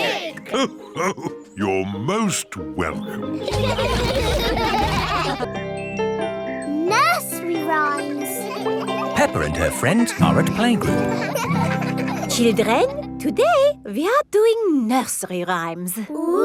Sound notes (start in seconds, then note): 3.3 all laugh; 11.3 children laughing